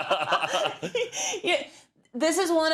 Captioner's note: laugh